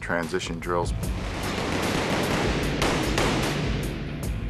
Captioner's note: guns firing